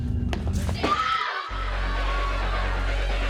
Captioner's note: scream